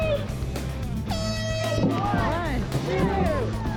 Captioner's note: air horn blasting